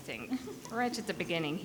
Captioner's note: person giggling